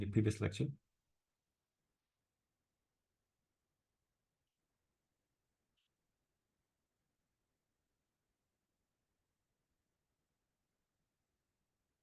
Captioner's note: no speech